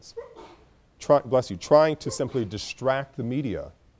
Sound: student sneezes

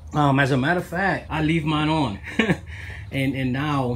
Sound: laughs

